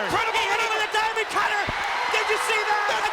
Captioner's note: audience cheering